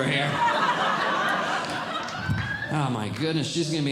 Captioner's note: audience Laughing